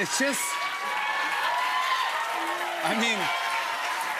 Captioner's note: cheers and applause